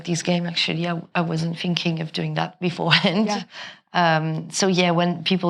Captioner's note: chuckles